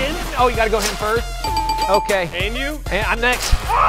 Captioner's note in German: dinging